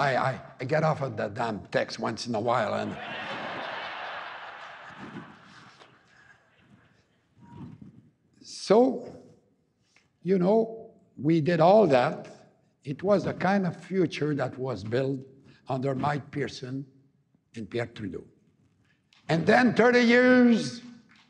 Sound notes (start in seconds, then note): 2.9 laughter